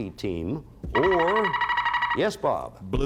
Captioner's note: buzzer sounds